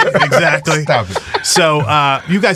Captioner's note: laughs